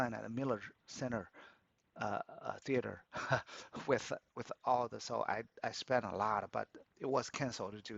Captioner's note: laughs